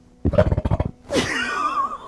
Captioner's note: loud rumbling; laughing